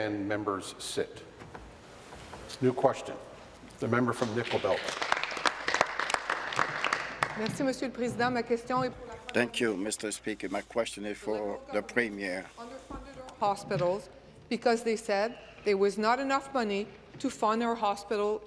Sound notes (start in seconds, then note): 0.0 applause; 8.1 applause; 9.0 speaking in French